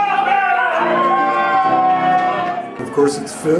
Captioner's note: crowd cheering